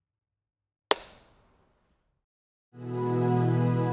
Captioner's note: logo snaps; gentle music